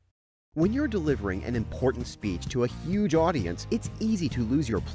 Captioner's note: voiceover